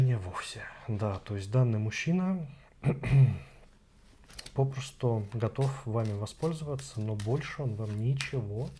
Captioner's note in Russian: откашливается